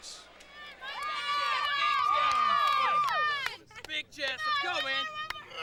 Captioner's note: crowd cheering